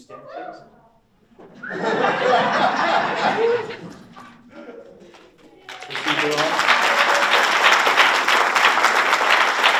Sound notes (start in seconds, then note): 1.3 audience laughs; 4.9 audience applauds